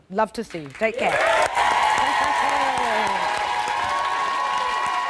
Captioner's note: applause